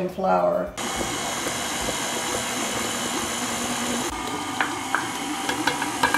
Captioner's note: mixer whirs